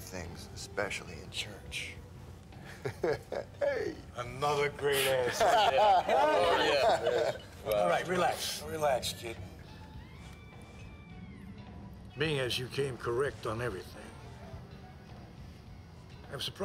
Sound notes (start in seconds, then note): 2.6 chuckles; 5.0 laughter